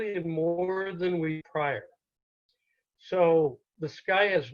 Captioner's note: audio cuts out